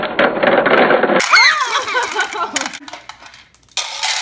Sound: laughs

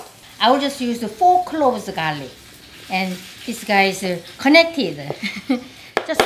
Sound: laughs

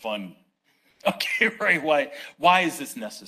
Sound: laughs

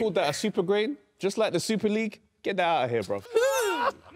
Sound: everyone laughs

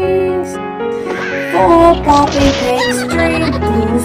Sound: Red squawking

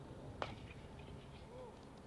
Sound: bat cracking

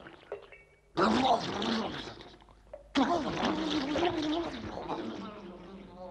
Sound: garbles in shock

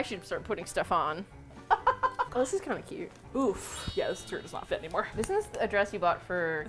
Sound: laughs

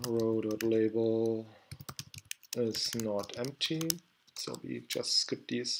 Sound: typing

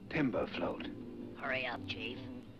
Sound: bee buzzes

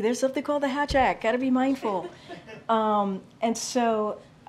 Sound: laughter

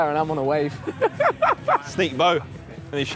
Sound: laughing

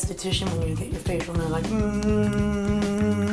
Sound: humming

